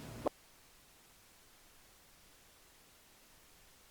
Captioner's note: audio mutes